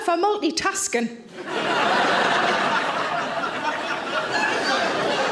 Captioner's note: audience laughs